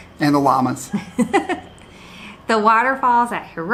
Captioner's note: laughs